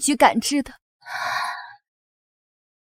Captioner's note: gasp!